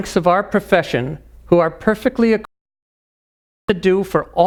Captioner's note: voice cuts out